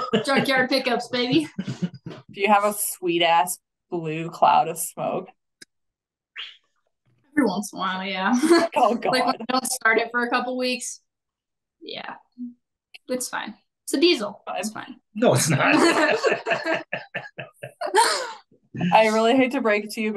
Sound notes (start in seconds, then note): 9.4 faintly speaking; 15.3 everybody laughing